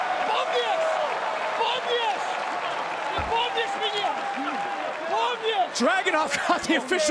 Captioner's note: yelling